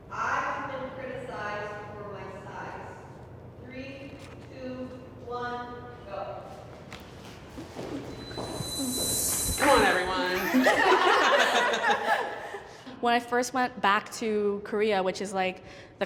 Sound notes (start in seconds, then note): 10.2 laughter